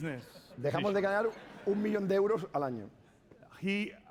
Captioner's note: speaking spanish